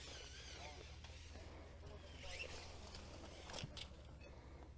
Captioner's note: measuring tape whirls